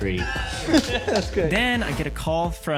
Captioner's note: chuckling